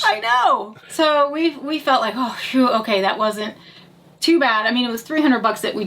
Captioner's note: exhales